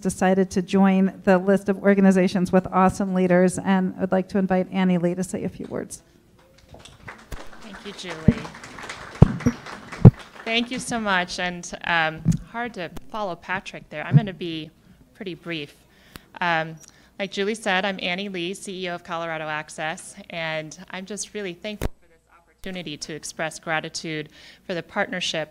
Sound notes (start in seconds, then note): 6.5 clapping